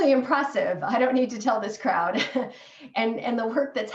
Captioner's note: laughter